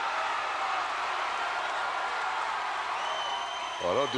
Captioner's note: crowd cheers